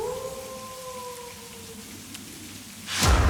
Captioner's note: howling